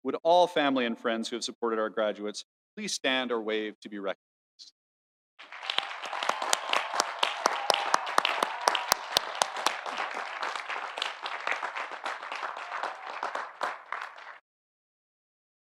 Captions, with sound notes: Would all family and friends who have supported our graduates please stand or wave to be recognized? (audience cheering) (audience applauding)